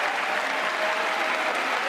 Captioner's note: applause